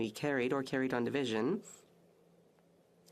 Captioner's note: speaking French